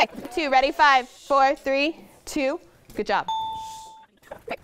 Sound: ding

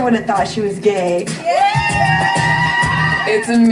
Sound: contestants screaming

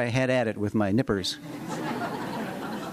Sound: laughter

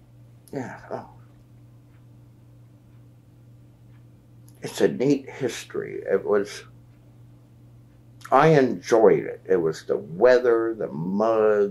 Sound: laughs

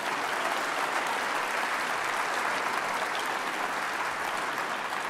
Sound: applause

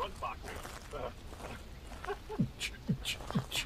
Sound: more grunting; making kick-snare sounds

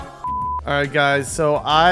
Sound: beep

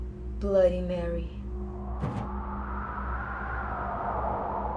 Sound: wind

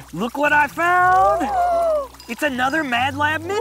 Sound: gasping

